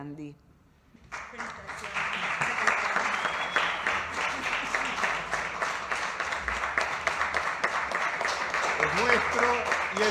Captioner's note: clapping